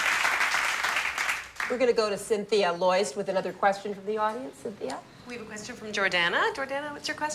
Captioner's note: applause